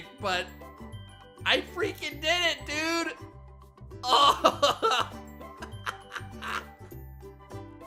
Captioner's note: laughs